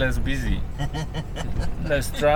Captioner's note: laughter